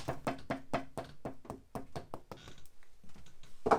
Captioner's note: hammer banging